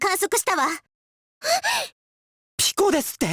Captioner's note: gasp